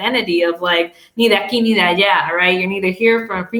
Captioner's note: speaking in Spanish